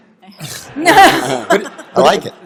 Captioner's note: laughter